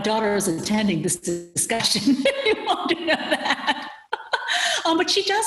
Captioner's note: laughing